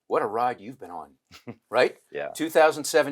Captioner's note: chuckles